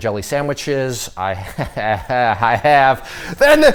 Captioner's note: laughs